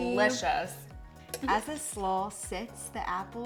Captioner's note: spoon clattering